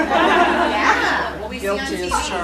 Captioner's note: laughter